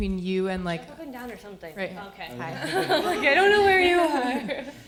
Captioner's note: audience laughter